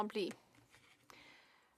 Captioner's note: speaking in French